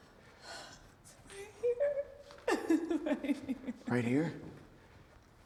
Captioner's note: sobbing